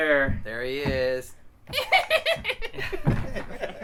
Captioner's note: wicked laugh